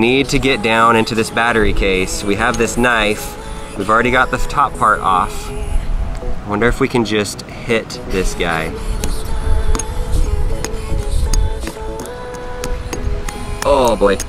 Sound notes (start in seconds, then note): 9.2 knife banging